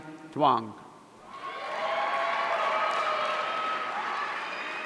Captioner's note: audience cheering